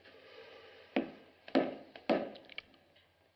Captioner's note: thumping